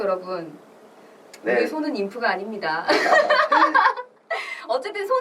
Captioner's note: laughs